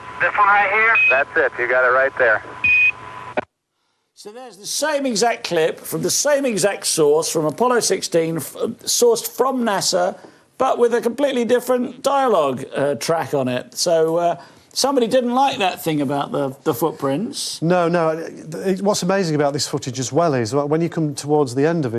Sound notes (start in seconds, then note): 2.6 signal beeps